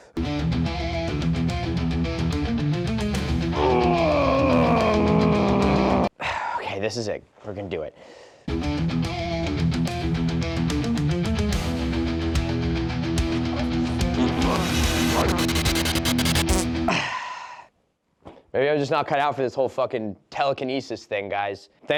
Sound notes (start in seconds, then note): 3.5 grunting; 13.8 energy weakly pulses; 16.4 fart sound; 16.8 sighing